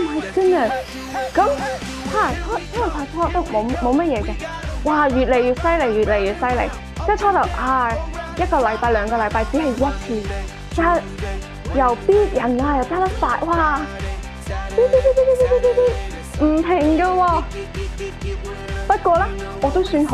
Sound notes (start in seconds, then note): 14.8 beep